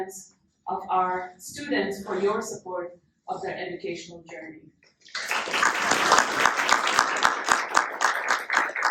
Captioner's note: applause